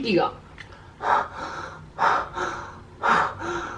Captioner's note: breathes in and out